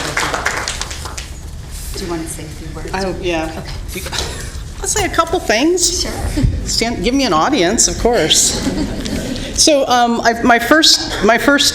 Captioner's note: applause